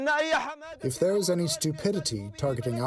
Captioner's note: through translator